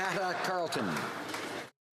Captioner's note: some Applause